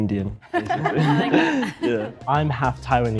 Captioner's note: group laughs